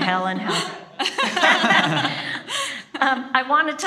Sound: speakers laughing

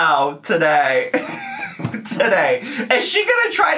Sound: laughs

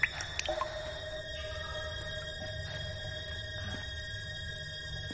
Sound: water drops falling

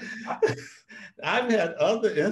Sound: both laugh

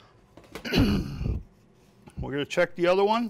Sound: clears throat

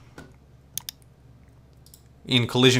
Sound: mouse clicks

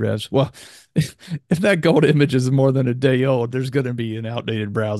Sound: laughs

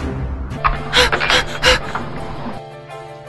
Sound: breathless

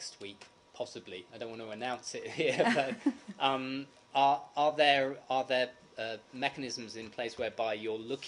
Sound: laughter

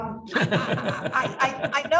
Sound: laughs

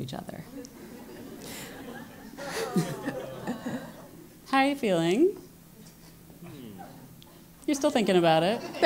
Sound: laugh

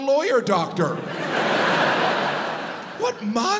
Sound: audience laughs

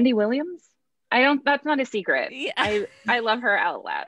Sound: hosts laughs

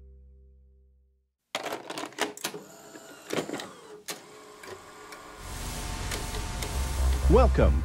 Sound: VCR noises

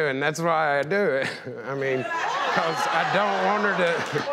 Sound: crown yells

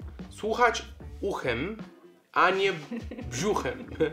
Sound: speaks Polish

